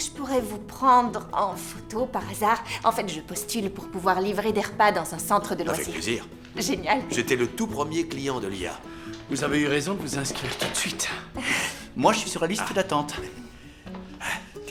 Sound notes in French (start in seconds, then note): 11.6 rires